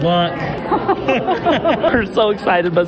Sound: laughing

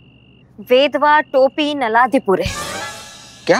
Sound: speaking gibberish

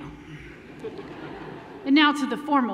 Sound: laughter

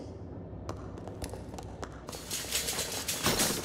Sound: footsteps approaching

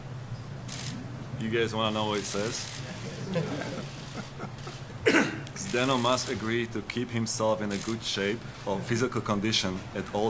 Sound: laughter

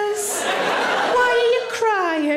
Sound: audience laughing

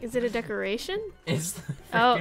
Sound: giggles

